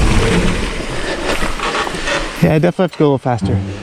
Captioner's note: heavy breathing